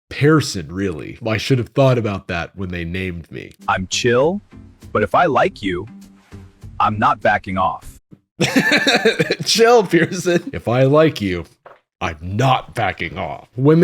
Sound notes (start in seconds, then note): 8.4 laughs